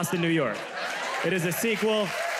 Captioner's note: audience cheers, claps